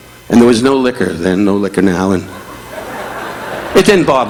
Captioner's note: audience laughing